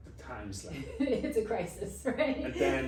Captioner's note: laughs